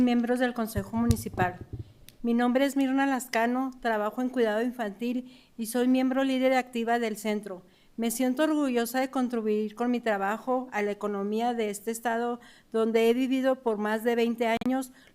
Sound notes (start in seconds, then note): 1.4 speaking in spanish